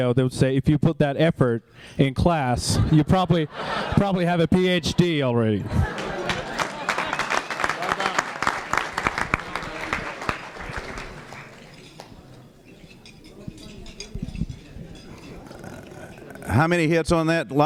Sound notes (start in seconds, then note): 5.4 laughter; 5.8 applause